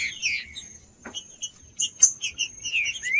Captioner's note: trinca ferro cantando